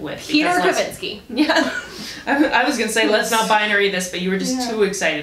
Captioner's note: laughs